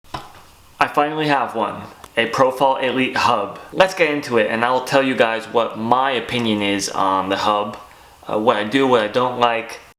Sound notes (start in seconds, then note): 0.3 clapping on wheel